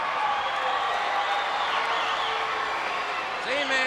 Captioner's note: crowd cheering